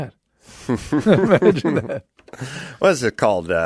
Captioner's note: both laughing